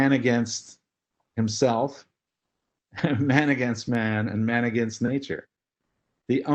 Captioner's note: laugh